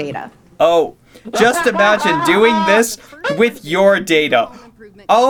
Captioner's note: laughs in big data